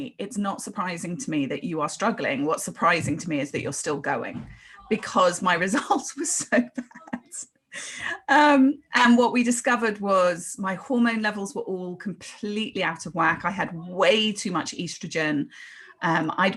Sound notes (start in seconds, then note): 6.3 laughs